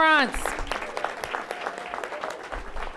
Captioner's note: applause